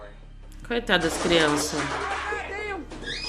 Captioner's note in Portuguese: grito